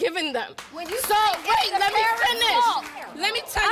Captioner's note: applause